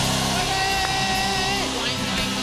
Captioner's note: cheers and applause